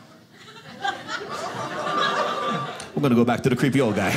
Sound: audience laughing

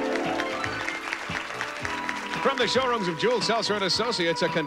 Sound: audience applauding

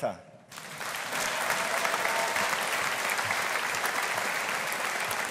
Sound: audience applauding

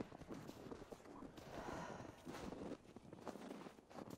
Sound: footsteps crunching

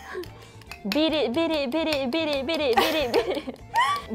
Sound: laughs

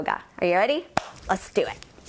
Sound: clap

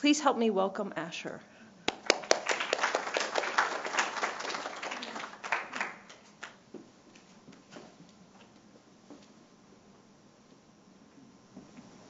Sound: applause

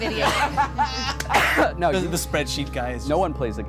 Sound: laughing

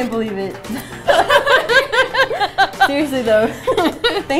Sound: laughs

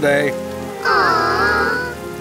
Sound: groan

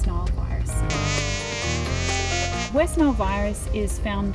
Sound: mosquito buzzing

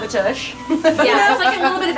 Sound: laughs

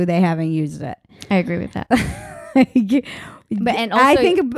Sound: laughing

